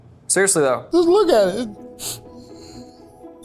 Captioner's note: sniffs